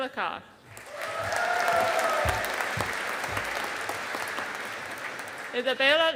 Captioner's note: audience applauding